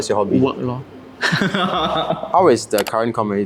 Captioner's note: laughs